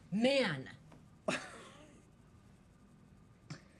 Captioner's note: laughs